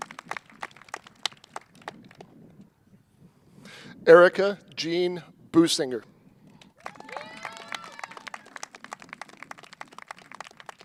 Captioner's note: cheers and applause